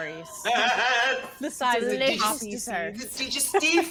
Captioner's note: laughs